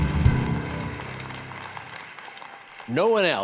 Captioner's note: applause